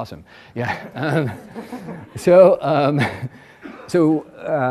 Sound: laughs

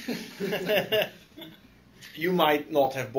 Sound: laughter

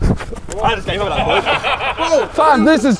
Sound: men laughing

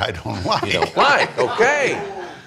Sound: laughing

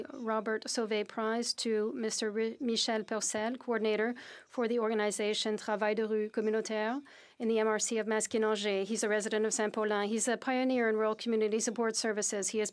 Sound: speaking French

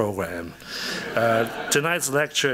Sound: audience chuckles

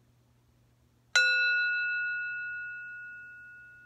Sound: ringing

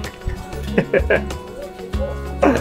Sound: laughs

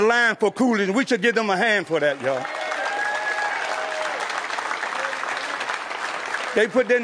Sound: applause

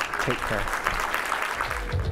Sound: applause

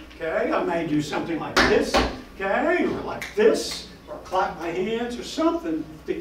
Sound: slaps desk; snaps fingers

